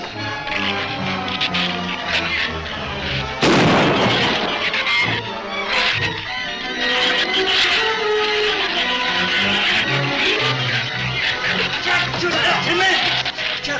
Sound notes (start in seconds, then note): 0.2 shrews chatter; 3.4 gun fires; 5.6 shrews chatter